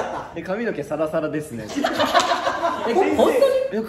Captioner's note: laughs